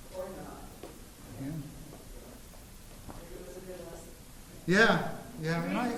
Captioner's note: chatter from the crowd